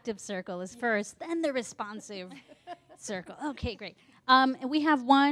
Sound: laughter

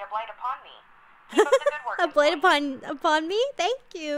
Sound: laughs

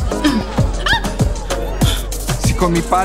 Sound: Juliet shrieks

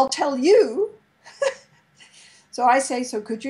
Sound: laughs

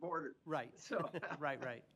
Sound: laughter

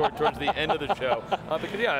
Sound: laughing

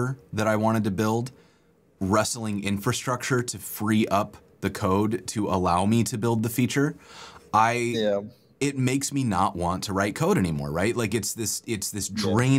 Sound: audio cutting out

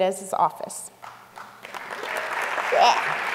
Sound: applause

